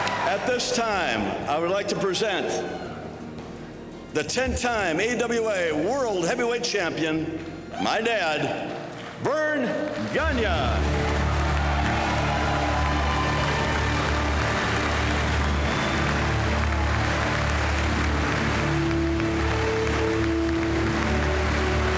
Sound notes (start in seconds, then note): 0.0 crowd laughing; 11.1 crowd cheering and applauding; 19.1 bright music